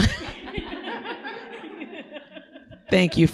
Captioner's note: audience laughing